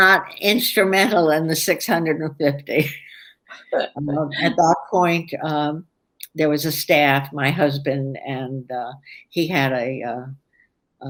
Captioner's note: laughs